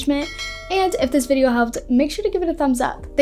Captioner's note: bell ringing